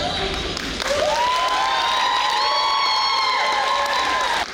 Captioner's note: audience cheering